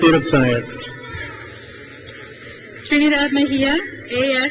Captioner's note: crowd cheers